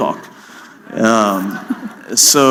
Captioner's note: laughter